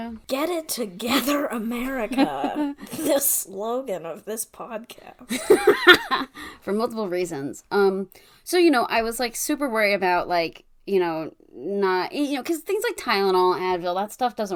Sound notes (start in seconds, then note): 5.2 laughs